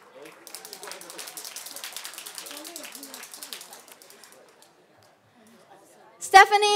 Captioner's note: applause